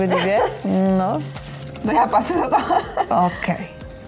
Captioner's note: laugh